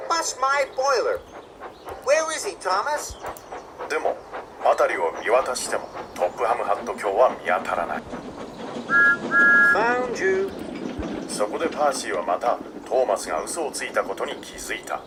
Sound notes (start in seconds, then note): 8.9 peeps